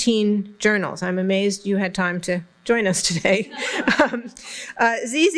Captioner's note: laughter